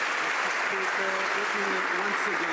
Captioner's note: some Applause